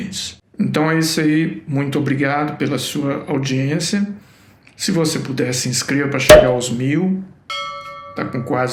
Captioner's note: sound of bottle cork popping